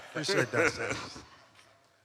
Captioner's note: all laughs